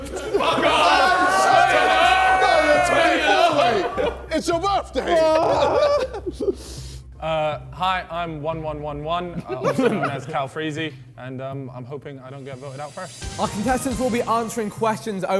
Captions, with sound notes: (men laughing) - Fuck off! (men chattering) - No, you're 24 mate. It's your birthday. - No! - Hi, I'm 1111. (contestants chuckling) Also known as Calfreezy, and I'm hoping I don't get voted out first. - Our contestants will be answering questions